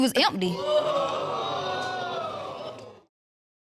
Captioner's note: audience exclaims